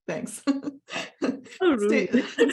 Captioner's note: laughs